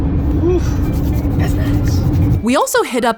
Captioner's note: rubbing hands together